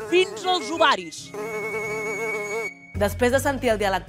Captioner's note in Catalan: mosca: brunzit